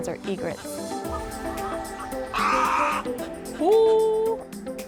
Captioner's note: birds cawing